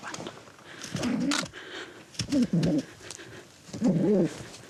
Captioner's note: kiwi grunting